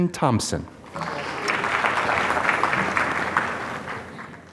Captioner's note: applause